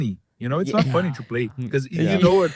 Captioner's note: laughs